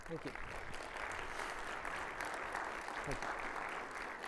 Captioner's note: audience clapping